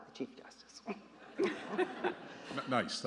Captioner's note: justices laughing